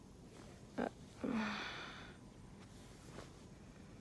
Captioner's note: sighs